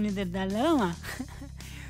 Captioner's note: laughs